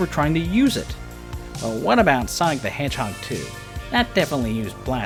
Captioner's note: nerdy voice